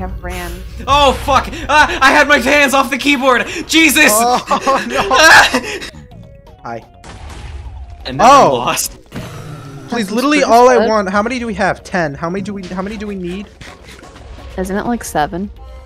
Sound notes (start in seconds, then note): 0.8 explosions; 5.2 screams; 5.5 zombified piglin grunts; 7.0 several explosions